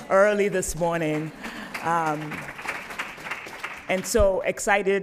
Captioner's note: applause